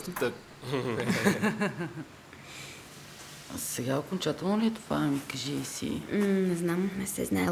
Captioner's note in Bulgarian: смях